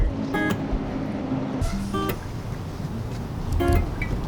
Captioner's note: faintly speaking